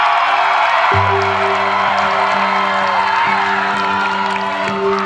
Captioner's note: cheering